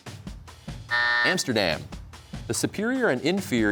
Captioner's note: buzzer sounds